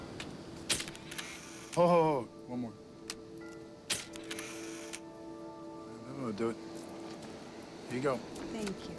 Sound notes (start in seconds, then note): 0.7 camera shutter clicks; 3.9 camera shutter clicks